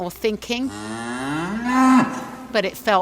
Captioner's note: cow mooing